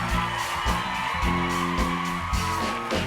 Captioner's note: cheers and applause